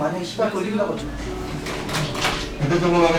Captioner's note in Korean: 안내 방송 알림음